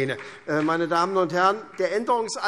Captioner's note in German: Vereinzelter Beifall SPD